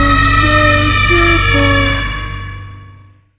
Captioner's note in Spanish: gritos de fondo